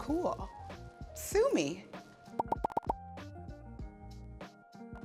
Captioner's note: five pops